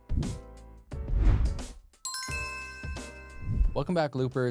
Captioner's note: upbeat music; logo whooshing